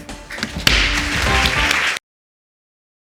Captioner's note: audience clapping